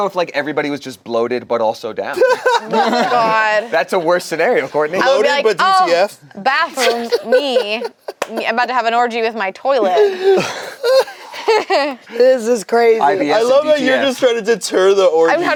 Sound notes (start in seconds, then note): 2.1 laughs; 9.8 laugh